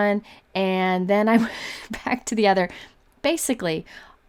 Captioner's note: laughs